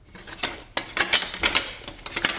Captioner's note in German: Klappern